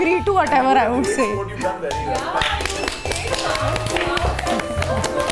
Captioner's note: claps